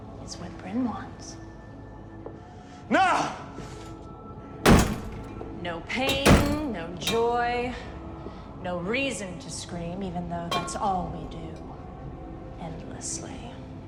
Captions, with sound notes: It's what Bryn wants. (suspenseful music) - Nah! (door lock clanging) - No pain, no joy, no reason to scream, even though that's all we do endlessly.